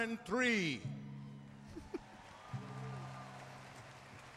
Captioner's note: applause